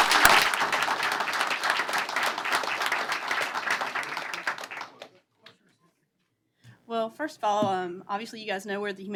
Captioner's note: applause